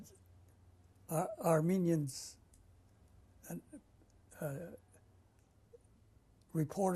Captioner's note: pauses for 3 seconds; pauses for 3 seconds